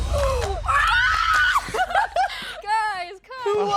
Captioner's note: screaming